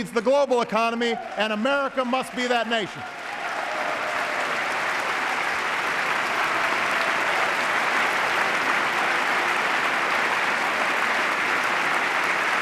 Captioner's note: applause